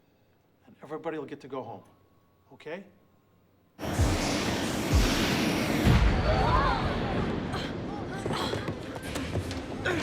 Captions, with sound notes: AND EVERYBODY WILL GET TO GO HOME, OK? [THUNDER] [SCREAMING]